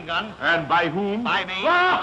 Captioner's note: laughs